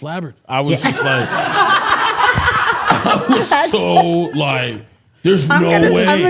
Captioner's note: both laughing